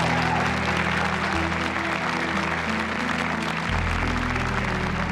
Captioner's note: audience applauds